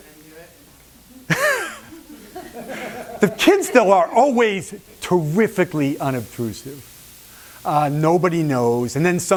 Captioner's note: laughs